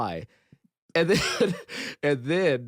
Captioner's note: chuckles